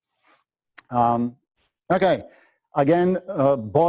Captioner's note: pause